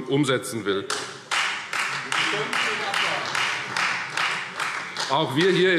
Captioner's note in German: Beifall Freie Demokraten